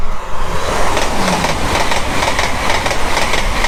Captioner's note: fast Train Passing